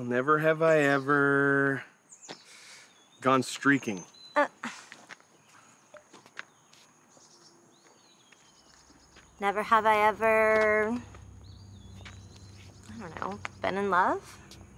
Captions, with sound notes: - Never have I ever... gone streaking. (woman scoffs) (birds chirping) - Never have I ever, I don't know, been in love?